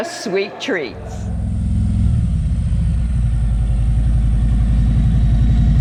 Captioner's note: motorcycle engine roaring